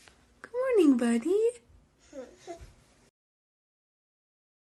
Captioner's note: baby babbles